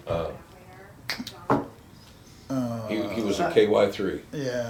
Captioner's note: snaps